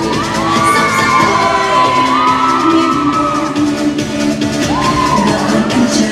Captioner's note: cheering